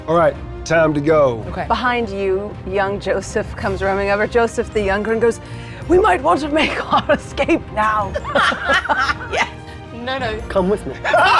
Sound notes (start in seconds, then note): 8.1 players laughing; 11.0 players laughing